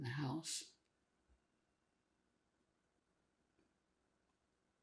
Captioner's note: pauses 6 seconds